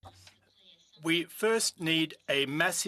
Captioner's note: speaking French